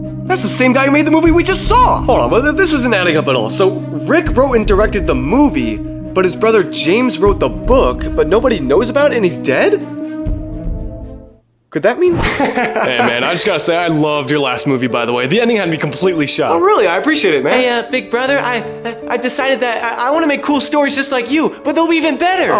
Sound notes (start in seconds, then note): 12.2 laughs